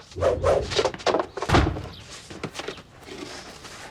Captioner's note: door slams